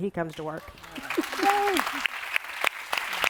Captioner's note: applause